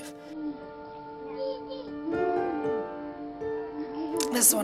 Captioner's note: babbling